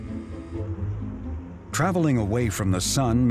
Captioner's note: electric whirring